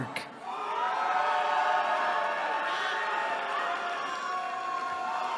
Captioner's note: cheering